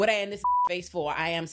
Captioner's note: beep